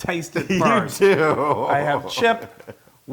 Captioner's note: laugh